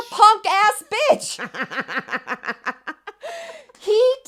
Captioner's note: women laughing